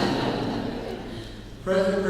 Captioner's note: laughing